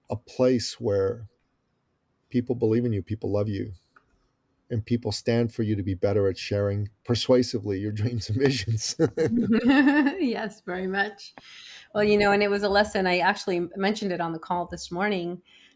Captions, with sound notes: a place where people believe in you, people love you and people stand for you to be better at sharing persuasively your dreams and visions. (laughs) - Yes, very much. Well, you know, and it was a lesson, I actually mentioned it on the call this morning.